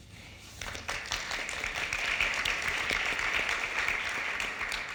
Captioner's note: audience applauding